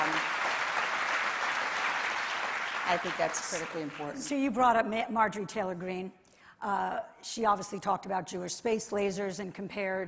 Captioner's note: applause